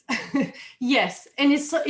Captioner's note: chuckles